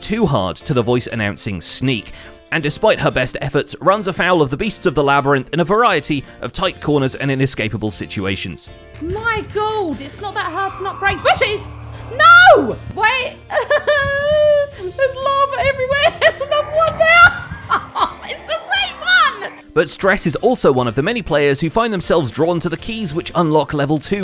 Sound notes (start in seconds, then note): 10.2 Shrieker shrieks; 12.1 sobs